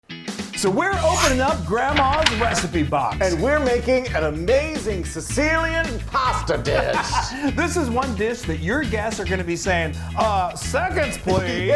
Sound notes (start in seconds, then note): 6.4 laughing